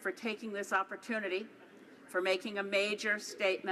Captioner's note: speaking Alternate Language